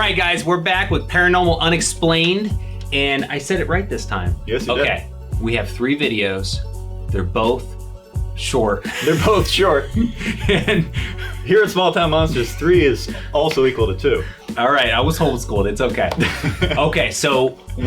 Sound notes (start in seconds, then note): 8.8 all laughing; 8.8 laughs